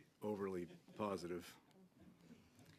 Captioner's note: laughter